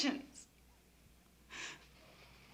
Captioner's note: sobs